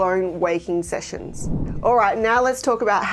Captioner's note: screen whooshing